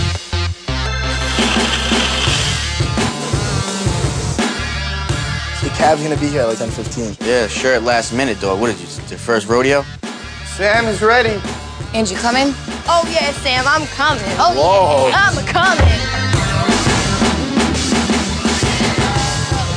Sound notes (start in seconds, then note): 0.2 energetic, bouncy bass music; 3.4 spraying can; 15.1 energetic, bouncy bass music